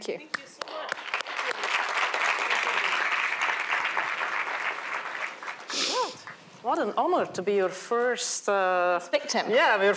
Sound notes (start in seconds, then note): 1.8 applause